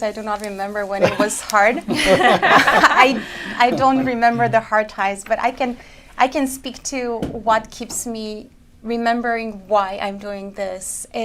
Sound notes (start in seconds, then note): 1.7 laughter